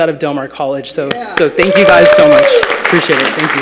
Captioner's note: attendees applauding